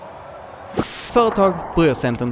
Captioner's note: white noise